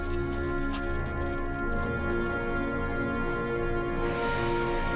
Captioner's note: electrical fizzling